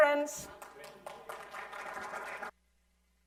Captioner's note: applause